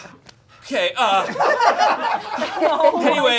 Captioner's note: audience laughing